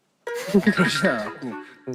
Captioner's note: haha